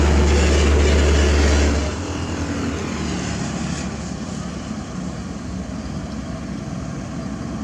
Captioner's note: engine